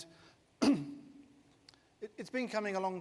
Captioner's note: clears throat